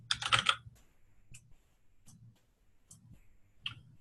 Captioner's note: typing